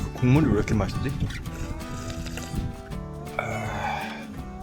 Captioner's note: sluuuurp